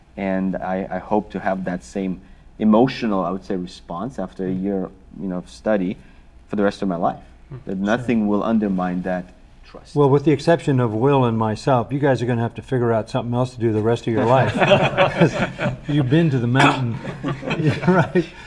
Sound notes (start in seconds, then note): 14.1 all laughing